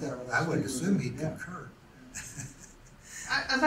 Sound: laughs to self

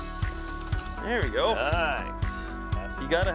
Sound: fishing shaking

